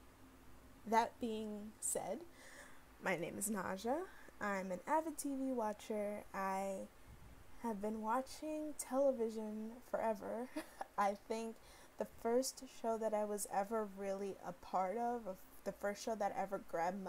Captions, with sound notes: So...that being said. My name is Naja, I'm an avid TV watcher, I have been watching television forever (giggles). I think the first show that I was ever really a part of...the first show that ever grabbed